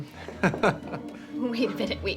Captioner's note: laughs